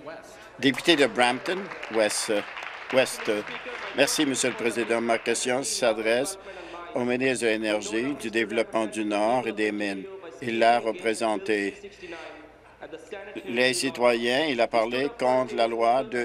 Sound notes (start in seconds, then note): 4.3 applause